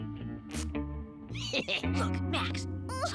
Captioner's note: evil laughter